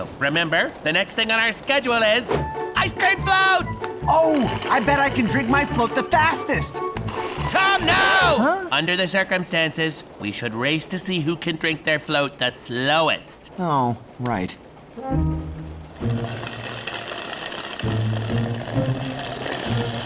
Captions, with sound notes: The next thing on our schedule is... -Ice-cream floats! -I bet I can drink my float the fastest! -[slurp] -Tom, no! Under the circumstances, we should race to see who can drink their float the slowest. Oh, right. [slu-u-rp]